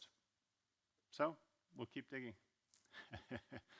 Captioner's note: laughs